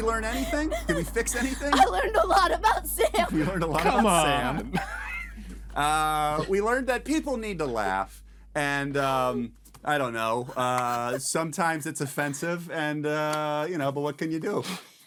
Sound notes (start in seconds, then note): 7.8 laughing